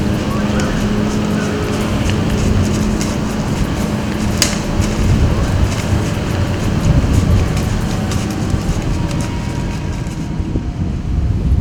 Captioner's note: sound of wind, walking in leaves